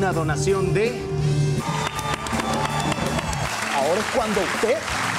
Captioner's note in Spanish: Aplausos